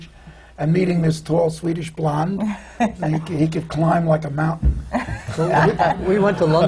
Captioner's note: laughs; laughter